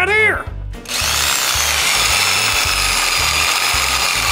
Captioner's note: power drill motor